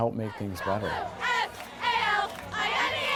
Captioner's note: cheering